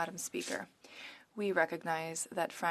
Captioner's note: speaking French